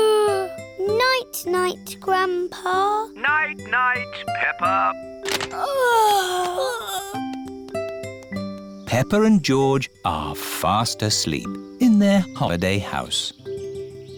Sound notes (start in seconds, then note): 0.0 yawns; 5.5 peppa and george yawning